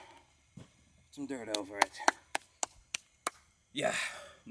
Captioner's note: clapping